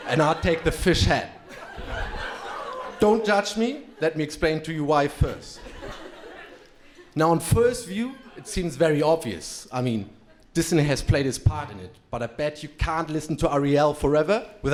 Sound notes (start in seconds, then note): 1.8 crowd laughing; 6.3 crowd laughing